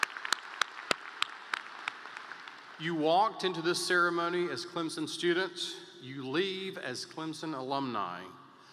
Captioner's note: applause